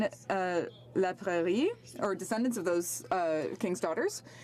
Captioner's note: speaking French